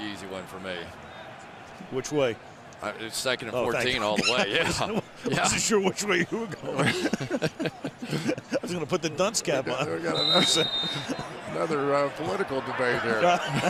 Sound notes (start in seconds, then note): 6.4 laughter